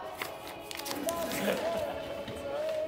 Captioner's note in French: froissement de papier